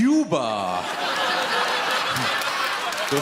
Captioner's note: audience laughs